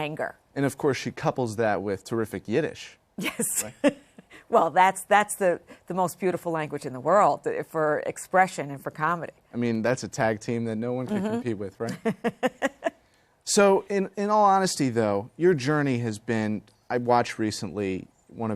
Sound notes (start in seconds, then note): 11.8 laughter